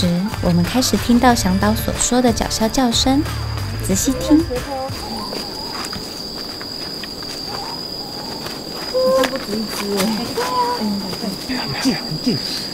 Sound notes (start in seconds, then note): 4.8 hoot; 7.3 hoot